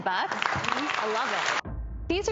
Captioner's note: applause